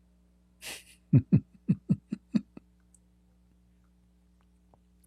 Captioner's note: Ketawa